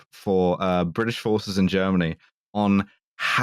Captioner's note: none